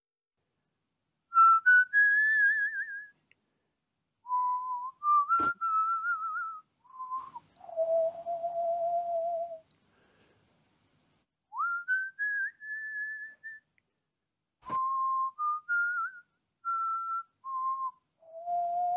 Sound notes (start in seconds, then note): 1.3 whistling